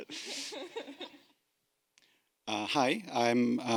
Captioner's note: panel laughing